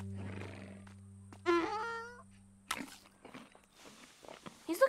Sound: happy donkey sound

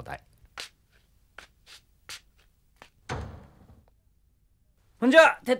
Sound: stepping on slippers and closing the door and leaving

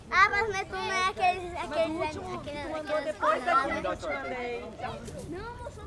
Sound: all speaking foreign language

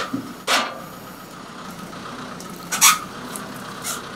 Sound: clanking

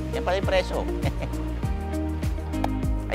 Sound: chuckles

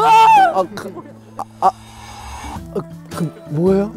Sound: stuttering in fear

